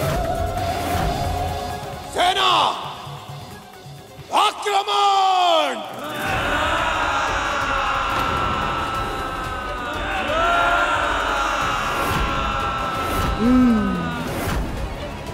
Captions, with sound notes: Army! Attack! [screams] [screams] [mutters]